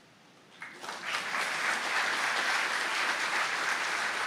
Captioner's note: applause